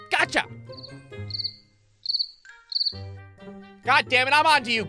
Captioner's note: crickets chirping